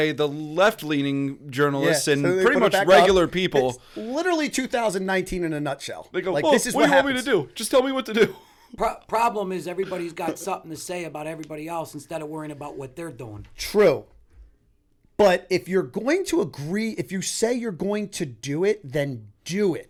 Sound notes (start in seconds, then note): 8.2 chuckle